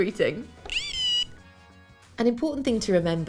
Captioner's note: micro:bit beeps